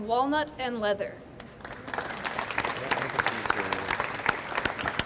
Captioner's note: audience applauds